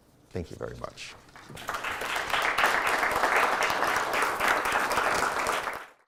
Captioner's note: crowd applauds